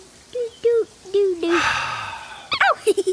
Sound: sighs

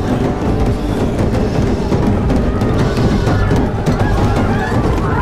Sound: pounding on door and screaming

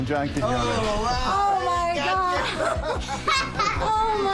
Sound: laughter

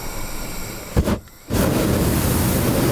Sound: flickering, roaring

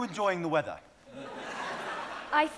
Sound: audience laughing

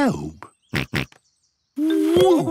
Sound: snorts

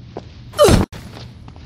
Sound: grunt

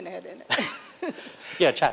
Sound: laughter

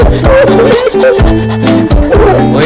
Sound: panting like dog

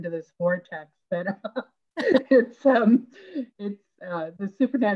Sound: laughing

